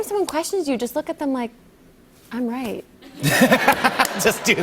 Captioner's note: laughter